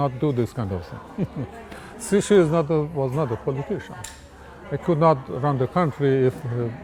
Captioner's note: laughs